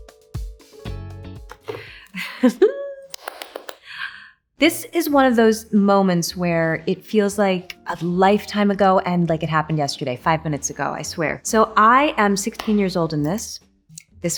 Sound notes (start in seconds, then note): 1.7 Anne chuckles